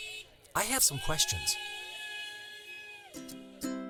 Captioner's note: car horns, cheering; cars honking, people cheering